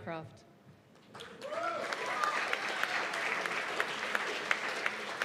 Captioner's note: cheers and applause